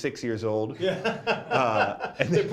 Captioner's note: laughs